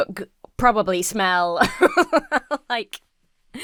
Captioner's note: laughs